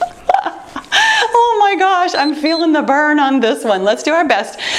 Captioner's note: timer beeps